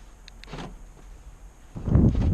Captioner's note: car unlocking sound